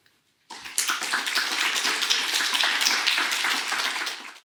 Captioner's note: applause